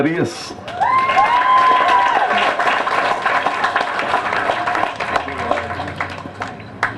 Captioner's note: applause